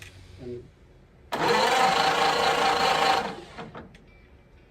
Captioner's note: engine cranking